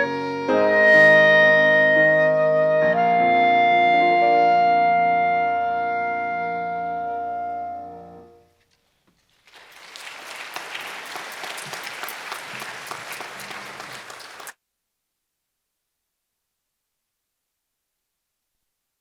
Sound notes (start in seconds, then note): 0.2 gentle music continues; 9.4 audience clapping